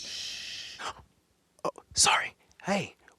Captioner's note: whispers